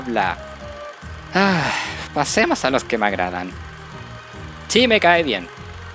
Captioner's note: sigh